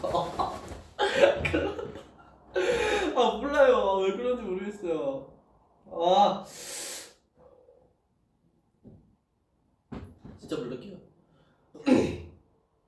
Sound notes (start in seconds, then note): 6.5 breathes; 11.8 clears throat